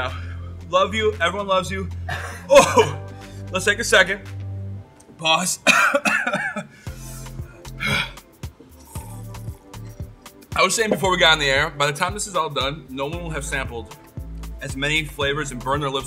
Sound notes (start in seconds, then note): 5.6 coughs; 8.6 slurps the milk